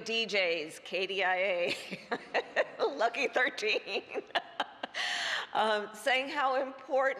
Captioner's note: laughs